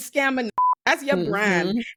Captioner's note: beep